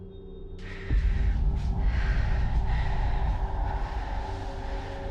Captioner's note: dramatic music; Maggie exhaling